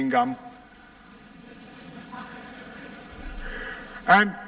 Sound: laughter

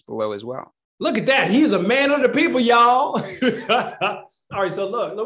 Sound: laughs

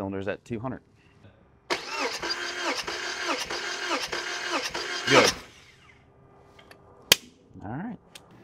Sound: sound of engine trying to turn over

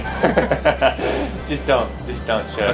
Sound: laughter

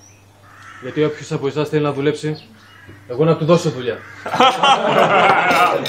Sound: laughter

